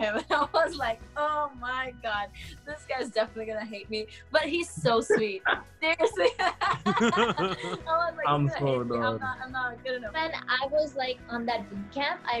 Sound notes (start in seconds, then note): 4.8 laughs